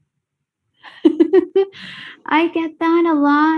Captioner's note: laughs